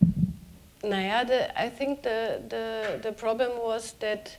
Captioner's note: speaking german